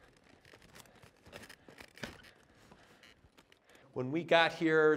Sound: breathing heavily

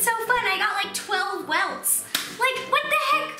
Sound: claps

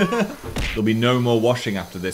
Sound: laughs; shoulder smacks

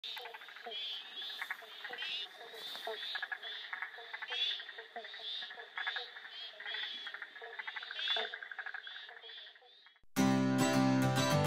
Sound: wetland sounds

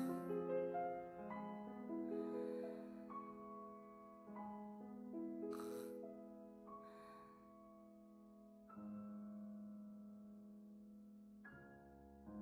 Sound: sighs

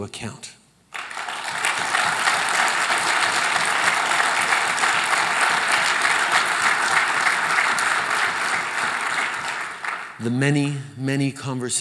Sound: applause

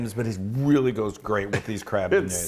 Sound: laugh

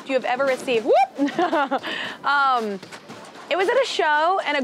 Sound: laughter

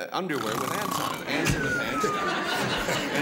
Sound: snoring sounds

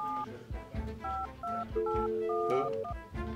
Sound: phone continues dialing

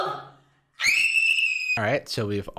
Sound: high pitch scream

